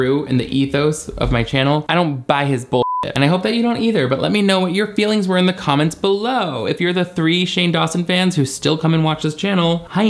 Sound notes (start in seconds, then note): 2.8 beep